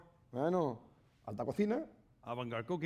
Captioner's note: speaking spanish